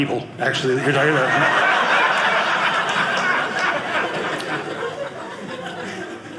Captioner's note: audience laughing